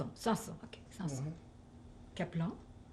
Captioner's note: french